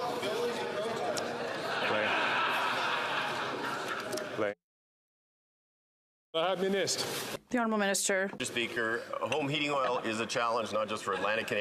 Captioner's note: chatter